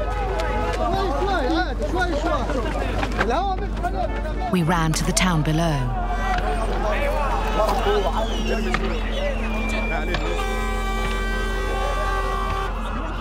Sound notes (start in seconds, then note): 6.0 shouting continues; 8.3 cannisters bursting, horn blaring